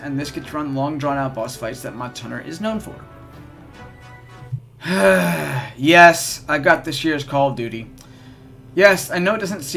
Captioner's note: sigh